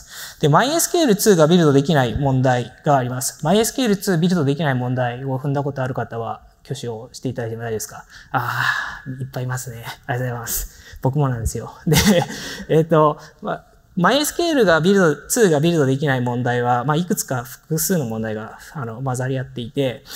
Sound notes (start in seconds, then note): 11.9 chuckles